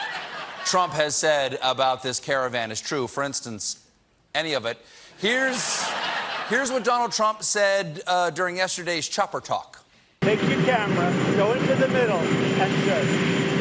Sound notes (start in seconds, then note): 0.0 laughter; 5.5 laughter